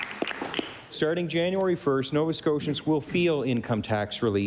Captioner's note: applause